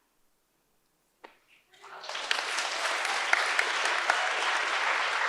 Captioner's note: audience applauds